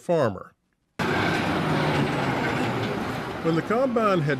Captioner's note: machine running